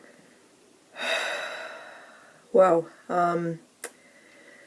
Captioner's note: dramatic sigh